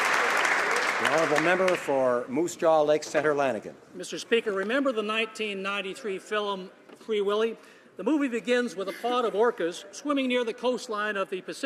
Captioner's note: applause